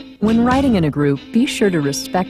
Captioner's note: voiceover